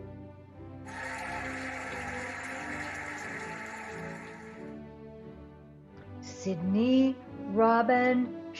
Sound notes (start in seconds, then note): 0.8 cheering and applauding